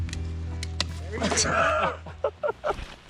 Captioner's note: laughter